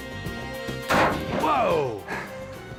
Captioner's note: gun firing